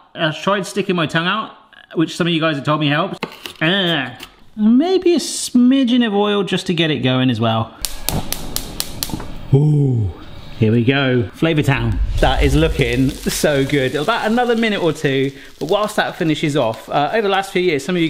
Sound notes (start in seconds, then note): 7.8 hob igniter clicking; 11.9 bacon sizzling